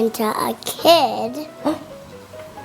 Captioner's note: gasping